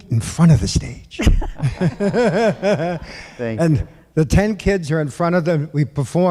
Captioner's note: laughter